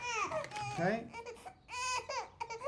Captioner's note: baby cries